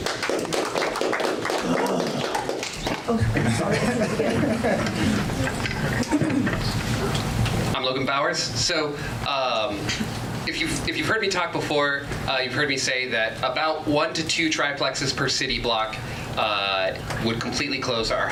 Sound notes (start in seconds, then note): 0.0 audience applause; 3.0 laughs